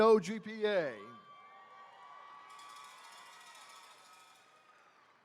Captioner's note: attendees cheering